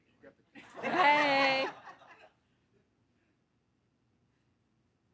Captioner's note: audience applauding